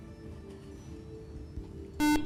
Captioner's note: buzzer